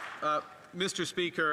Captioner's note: applause